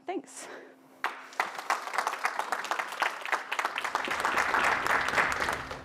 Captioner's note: applause